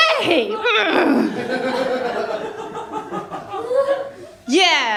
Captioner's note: laughter